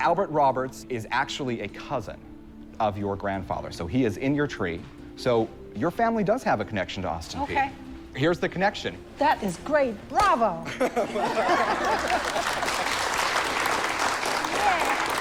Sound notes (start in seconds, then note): 10.1 applause